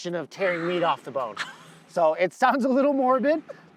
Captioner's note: chuckles